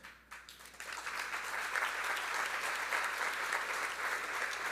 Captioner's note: audience applauding